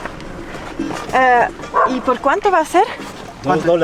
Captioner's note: in Spanish